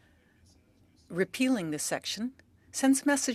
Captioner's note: speaking French